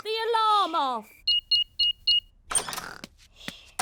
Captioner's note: beeping